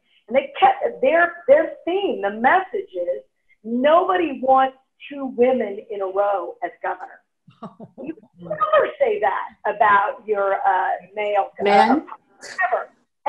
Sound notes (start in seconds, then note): 7.6 laughing